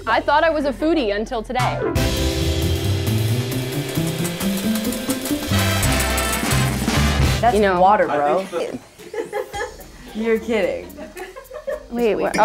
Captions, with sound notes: - I thought I was a foodie until today. (upbeat music) (coins clinking) - That's water bro. (laughter) You're kidding? (laughter)